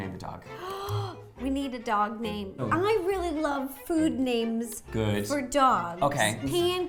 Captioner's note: gasps